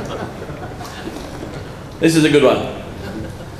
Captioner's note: laughter